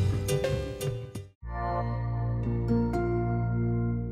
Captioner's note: gentle music; logo chiming